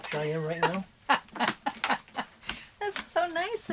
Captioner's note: laughing